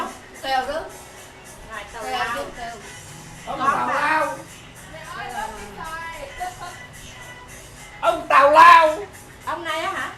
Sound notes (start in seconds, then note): 6.3 laugh